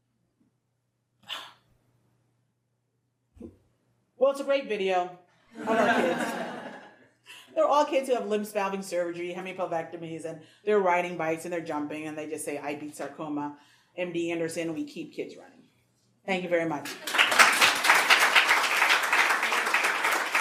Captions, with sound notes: (gasps) Well it's a great video of our kids. (audience laughs) They're all kids who have limb salvage surgery, hemipelvectomy's and they're riding bikes and they're jumping and they just say, "I beat sarcoma." MD Anderson, we keep kids running. Thank you very much. (audience clapping)